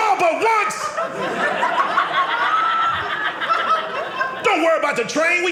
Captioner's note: audience laughing